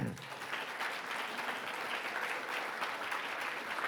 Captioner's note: audience clapping